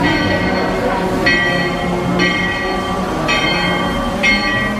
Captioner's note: train bell ringing